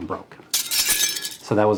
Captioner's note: glass shattering